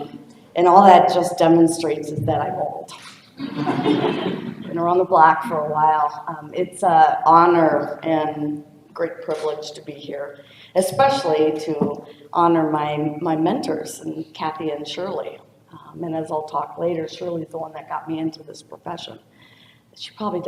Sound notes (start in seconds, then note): 3.4 laughter